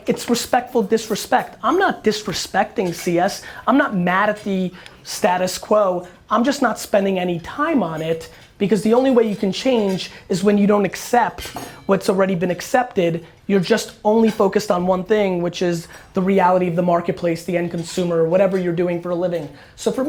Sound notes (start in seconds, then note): none